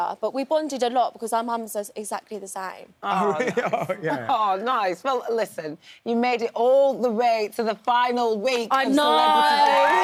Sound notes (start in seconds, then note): 2.7 laughing